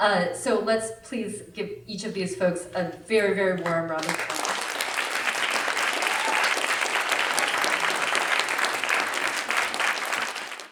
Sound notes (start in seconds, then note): 4.0 applause